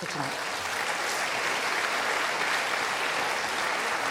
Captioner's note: audience applauding